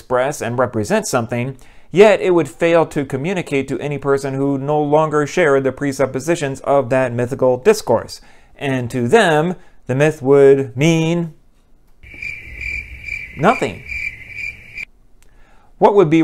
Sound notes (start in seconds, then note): 12.0 crickets